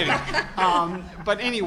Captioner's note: group laughter